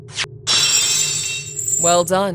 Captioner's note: lock shatters